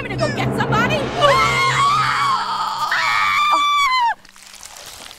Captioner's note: Marge screaming; teacher screaming; eggs sizzling